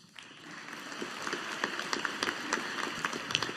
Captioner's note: audience applauding